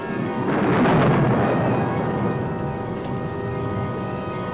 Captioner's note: thunder roaring